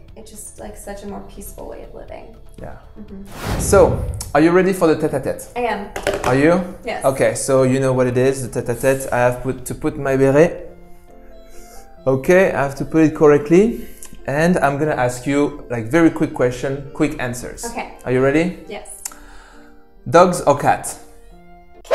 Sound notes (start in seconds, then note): 5.9 hits table